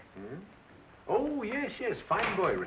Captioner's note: door opens